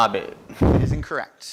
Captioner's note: laughs